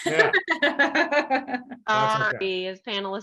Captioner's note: laughs